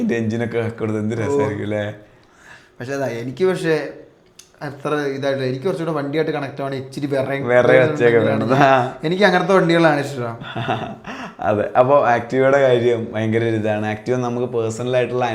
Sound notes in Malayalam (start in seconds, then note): 10.3 പൊട്ടിച്ചിരി